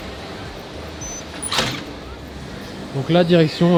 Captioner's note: doors creaking open